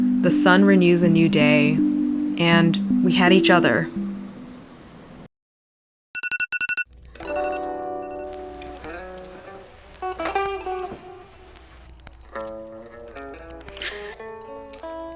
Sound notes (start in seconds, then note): 5.4 alarm